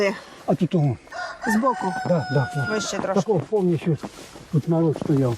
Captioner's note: rooster crowing; snow crunching